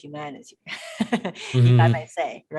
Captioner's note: laughing